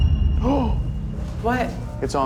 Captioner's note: gasping